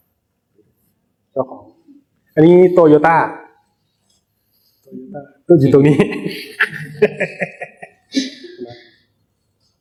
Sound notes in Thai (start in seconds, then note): 6.1 เสียงหัวเราะ